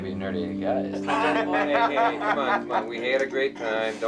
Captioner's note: Hanee laughing